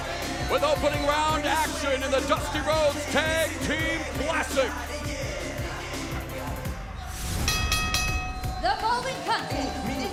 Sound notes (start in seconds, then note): 7.4 bell ringing